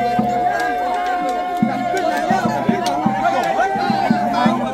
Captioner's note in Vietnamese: Vỗ tay